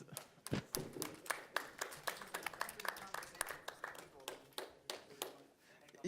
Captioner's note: applauding